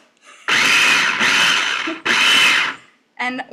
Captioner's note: chopper pulses